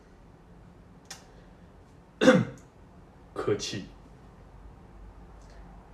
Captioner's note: ahem